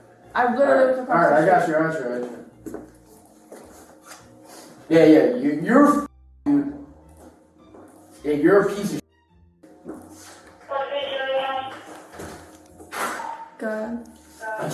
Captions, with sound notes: I've literally All right, I got your answer Yeah, yeah You're --, dude Yeah, you're a piece of -- (Radio chatter) Go ahead